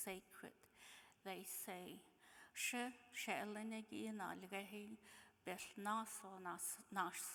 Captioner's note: speaking in foreign language